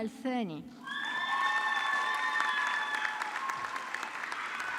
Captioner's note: audience clapping